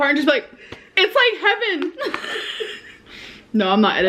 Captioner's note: laughs